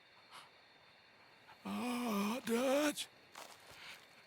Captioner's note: grunting